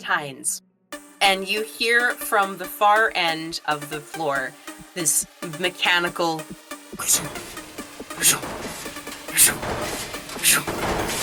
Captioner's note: metallic footfalls